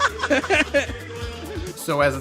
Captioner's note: laughing